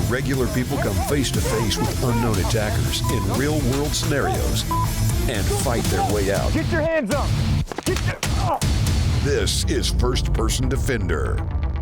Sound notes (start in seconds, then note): 7.8 grunting